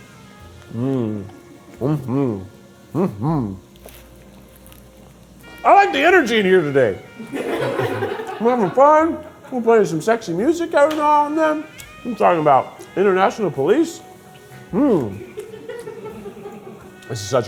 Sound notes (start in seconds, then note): 7.6 crew laughing; 15.4 crew laughing